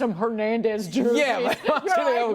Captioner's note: laughter